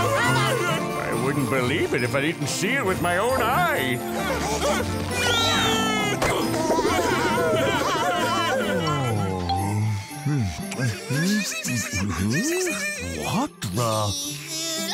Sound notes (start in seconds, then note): 3.7 shouting; 5.2 laughing; 9.8 giggling